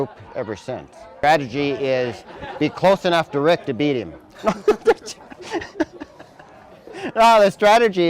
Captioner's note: laughter